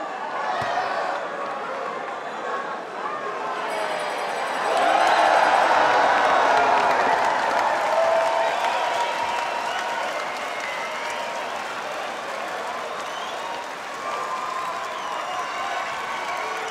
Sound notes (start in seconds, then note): 3.6 bell rings